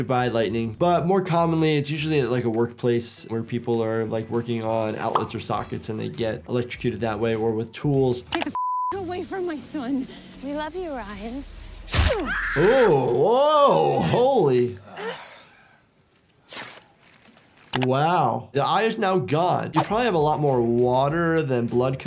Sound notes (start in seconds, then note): 8.3 beep; 11.9 knife slicing; 12.1 victim screaming; 16.4 knife slicing